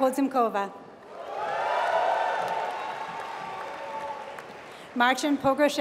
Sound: applause

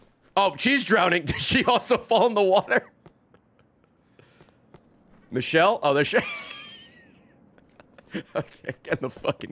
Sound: laughs

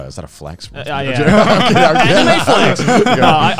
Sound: all laugh

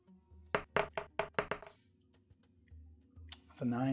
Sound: die rolling

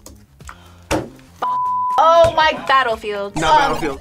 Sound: gasps

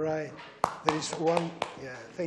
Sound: clapping

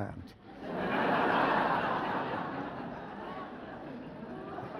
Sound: audience laughs

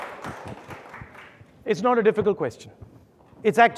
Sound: audience applauding

